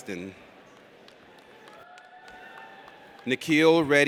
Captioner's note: audience cheers